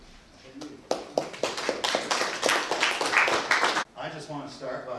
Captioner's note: applause